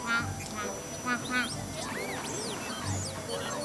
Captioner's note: loud vacuum and electronic noises